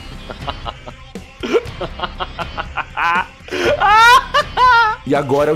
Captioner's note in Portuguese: continua rindo